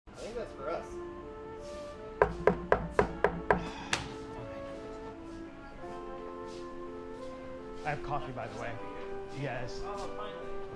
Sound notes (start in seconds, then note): 2.2 knocking at door; 5.0 uplifting music